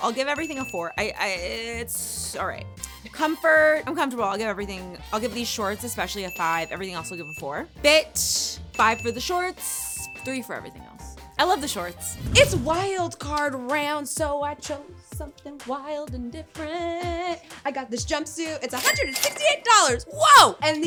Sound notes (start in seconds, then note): 0.0 bell ringing; 6.1 bell ringing; 8.7 bell ringing; 12.1 air whooshing; 18.7 cash register chiming